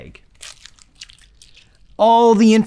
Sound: egg squishes

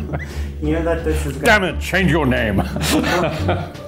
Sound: laugh

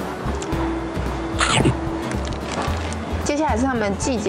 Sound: Pacman sound effect

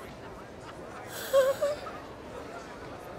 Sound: high-pitched sigh

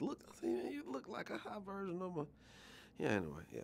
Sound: laughing

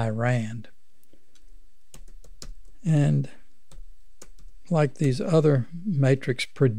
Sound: clicking

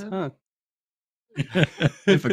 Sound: laughter

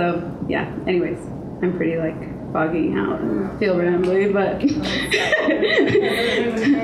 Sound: laughs

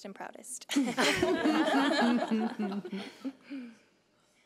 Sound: laughing

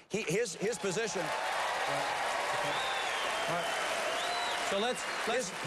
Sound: applause

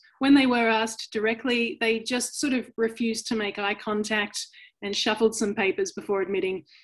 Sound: none

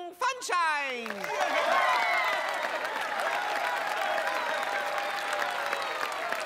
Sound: cheering and applauding

